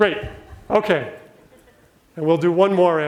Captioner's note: audience laughs